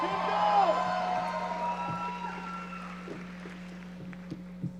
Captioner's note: audience cheering